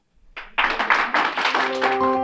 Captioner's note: clapping